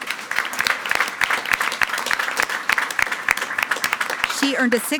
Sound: everyone applauding

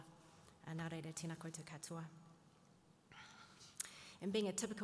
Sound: speaking in native Maori

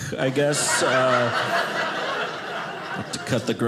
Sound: audience laughing

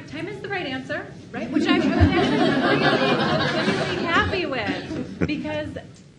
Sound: laughs

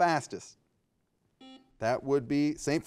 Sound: buzzer beeping

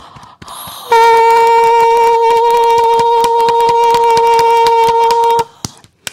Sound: beating Chest; sustaining note; clapping

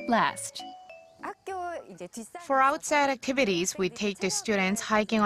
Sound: Korean

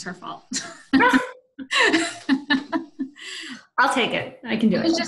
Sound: laughter

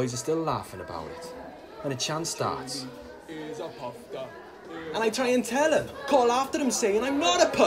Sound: Chants of 'Jamie is a poofter' in the background

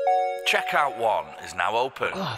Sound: chime

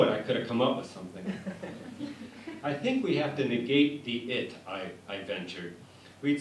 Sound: laughter

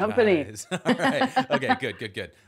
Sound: both laughing

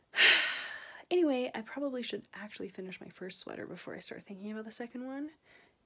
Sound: sigh

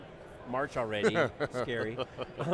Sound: laughing

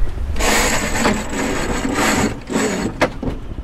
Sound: line scraping

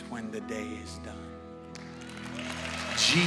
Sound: cheers and applause

